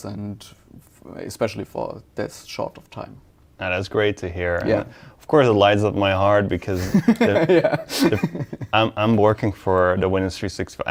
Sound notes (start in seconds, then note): 6.7 laughing